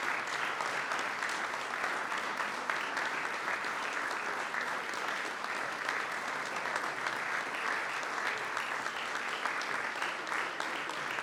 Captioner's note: applause